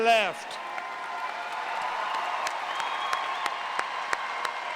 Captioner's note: applause